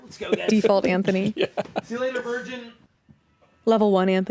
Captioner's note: chuckles